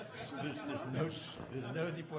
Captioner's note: audience laughing